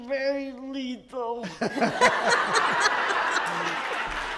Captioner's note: loud laughter